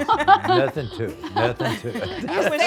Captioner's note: laughs